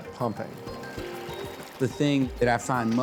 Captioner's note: water splashing